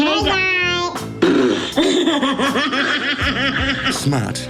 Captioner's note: laughing